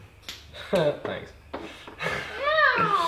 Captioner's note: laughs